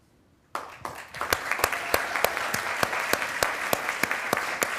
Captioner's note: attendees applauding